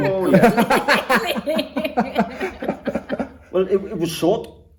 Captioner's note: all laugh